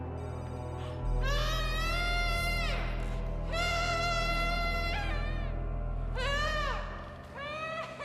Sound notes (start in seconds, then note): 1.6 tense music continues; 1.6 woman wailing